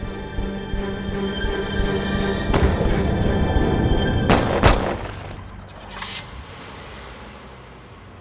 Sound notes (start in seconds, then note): 4.2 gun firing